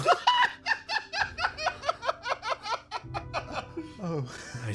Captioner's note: laugh